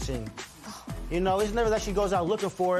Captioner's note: scoffs